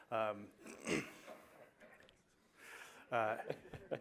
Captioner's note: laughter